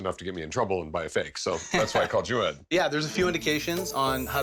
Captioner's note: chuckles